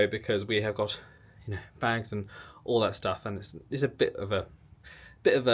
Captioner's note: none